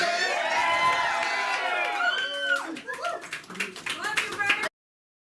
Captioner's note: cheering